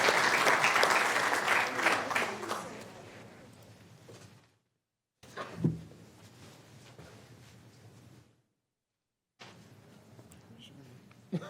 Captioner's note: applause